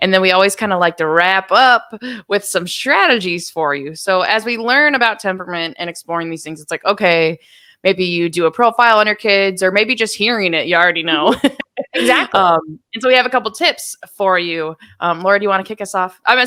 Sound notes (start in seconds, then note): 11.2 laughing